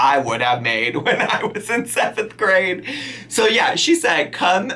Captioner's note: laughing